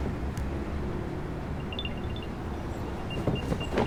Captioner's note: chiming; beeping